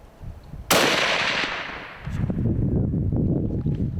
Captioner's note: gun firing